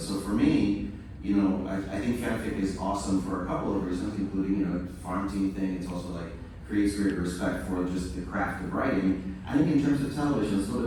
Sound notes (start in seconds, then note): none